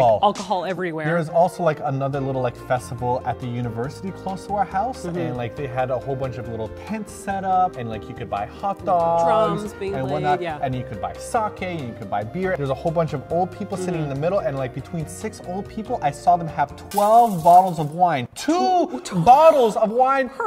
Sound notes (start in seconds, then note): 16.9 window breaks in the bg; 18.5 stuttering in bg due to the absurdity